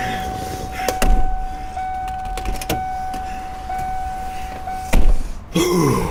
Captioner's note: phone ringing